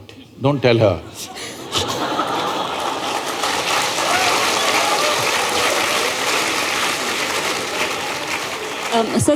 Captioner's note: laughter/Applause